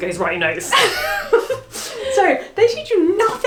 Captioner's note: laughs